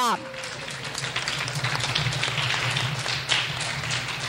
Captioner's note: clapping